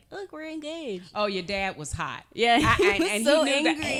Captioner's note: laughing